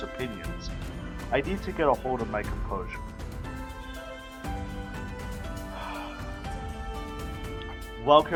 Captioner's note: deep breath